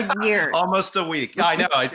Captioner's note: laughing